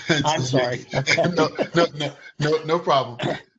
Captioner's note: laughter